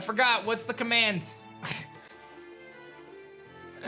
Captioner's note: chuckles